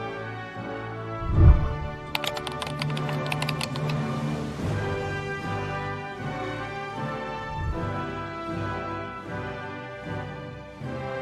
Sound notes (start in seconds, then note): 1.2 whooshing sound; 2.0 keyboard clicking